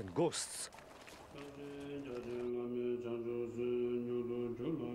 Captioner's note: chanting